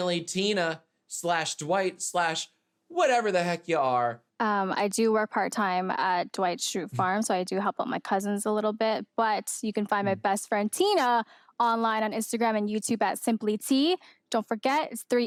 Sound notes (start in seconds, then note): none